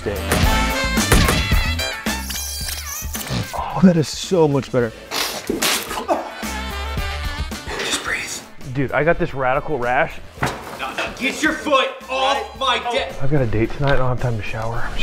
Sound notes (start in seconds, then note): 1.9 squeaking; 5.1 sneezes; 7.4 whispering